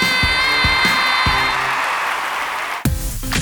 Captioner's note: crowd cheers